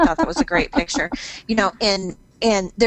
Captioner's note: laughs